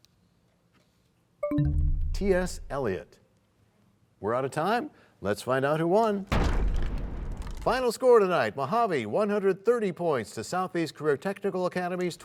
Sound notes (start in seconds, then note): 1.4 bell chimes, time expires; 7.8 crashing sound